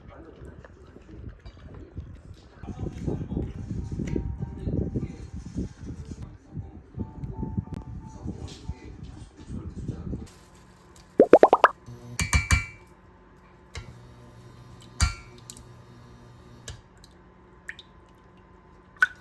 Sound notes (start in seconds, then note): 11.2 plop, plop